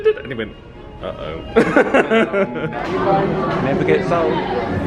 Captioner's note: laughs